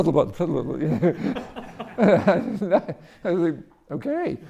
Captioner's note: audience laughing